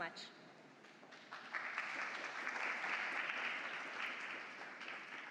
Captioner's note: applause